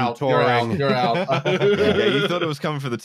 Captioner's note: laughter